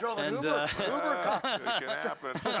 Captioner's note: laughter